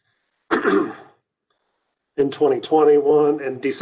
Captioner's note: clears throat